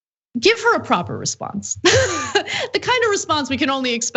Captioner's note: laugh